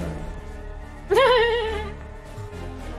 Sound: laugh

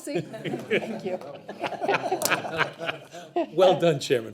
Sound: board members laughing

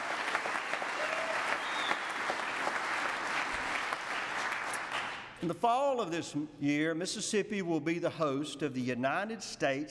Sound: applause

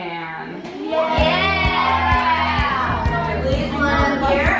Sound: kids cheering; upbeat music

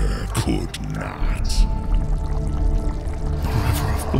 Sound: viscous trickling fluid

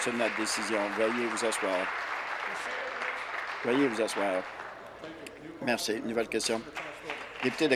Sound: applause

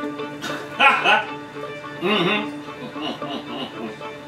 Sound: laughs

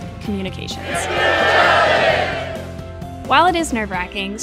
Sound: Crowd chanting: Executive Challenge!

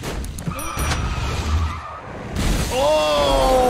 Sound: log crashes; tires screech; windscreen smashes

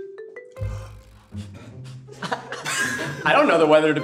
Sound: group laughing tentatively

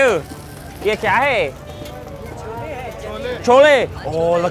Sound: speaking in foreign language

